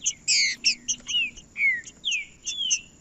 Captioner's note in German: trinca ferro cantando